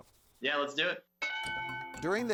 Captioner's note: bell dings